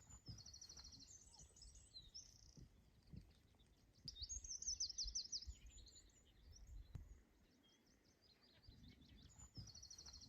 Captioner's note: birdsong